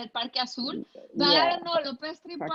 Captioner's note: speaking in foreign language